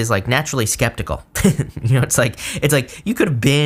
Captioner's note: laughs